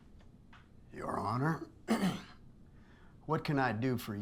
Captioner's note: clears throat